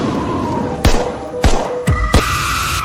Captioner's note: gunshots